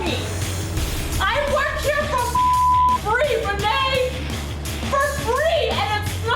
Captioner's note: beep